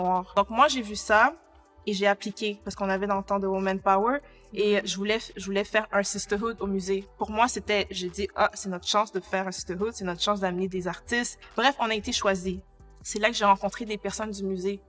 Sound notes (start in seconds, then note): 5.7 conversation